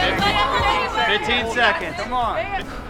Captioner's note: light rock music; chattering